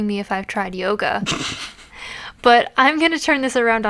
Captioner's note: laughs